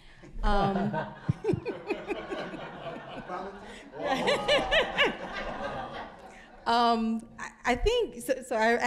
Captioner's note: audience laughing